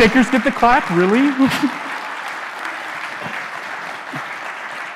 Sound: chuckling

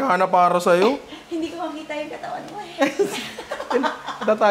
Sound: laughter

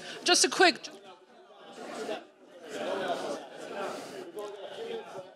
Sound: audience chatter

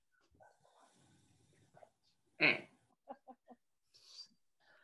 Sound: laughter

